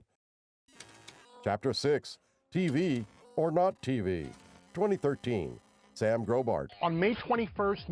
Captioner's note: static and typing